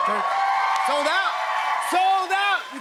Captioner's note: cheers and applause